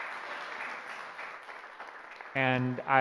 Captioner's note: applause